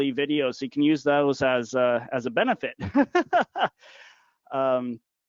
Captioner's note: laughing